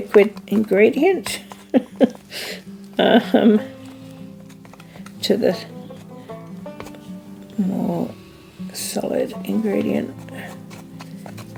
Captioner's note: laughs